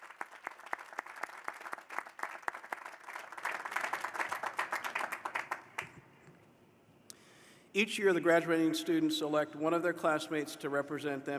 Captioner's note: applause